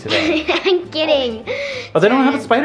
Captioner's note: laughs